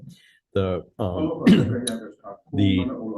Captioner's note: senator coughs